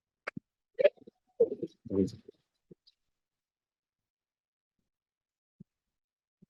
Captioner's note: audio distorting